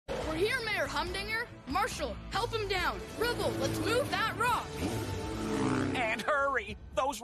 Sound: motorcycle Revving

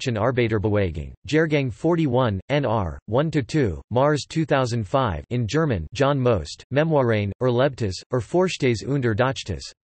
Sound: in German

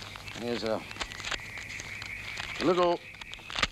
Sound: paper money snapping

